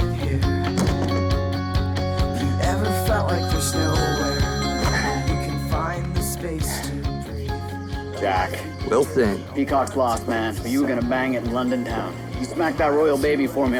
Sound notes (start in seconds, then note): 4.2 phone ringing